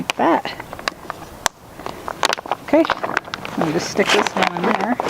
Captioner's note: plastic crunching